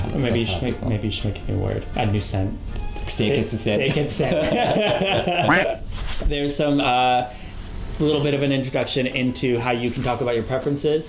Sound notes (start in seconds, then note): 3.8 laugh